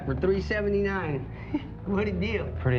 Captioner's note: chuckles